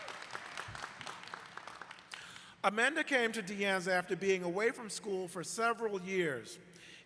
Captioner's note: applause